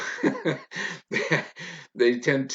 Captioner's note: laughs loudly